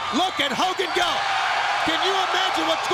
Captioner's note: crowd cheering